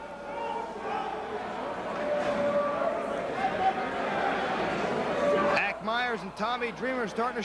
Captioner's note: crowd chatter